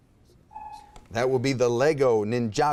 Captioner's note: timer buzzes